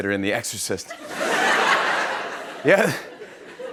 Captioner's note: laughter